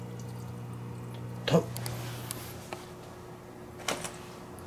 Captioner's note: shocked